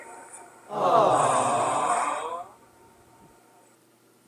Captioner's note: audience: disappointed aaww